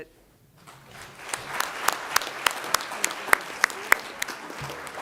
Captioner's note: applause